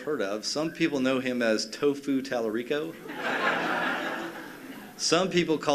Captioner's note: laughter